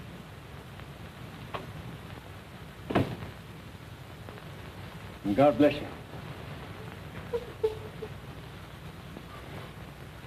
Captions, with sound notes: [DOOR CLOSES] AND GOD BLESS YOU. [SOBBING]